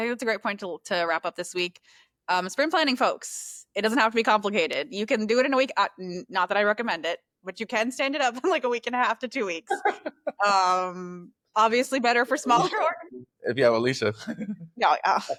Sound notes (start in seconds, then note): 10.8 laughter